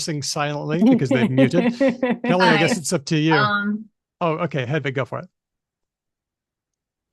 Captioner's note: laughs